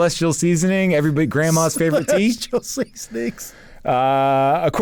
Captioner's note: laughs